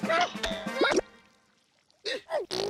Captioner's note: blowing raspberries